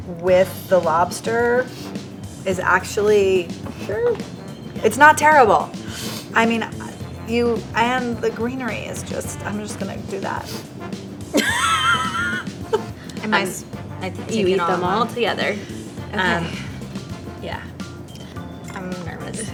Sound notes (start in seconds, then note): 11.3 laughs